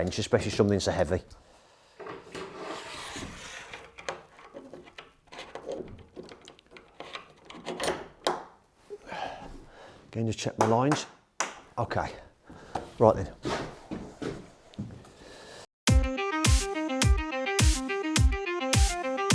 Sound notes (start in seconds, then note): 7.7 clamp rattling; 15.8 upbeat techno music